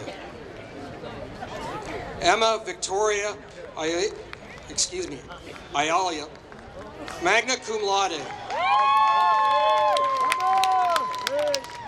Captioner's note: applause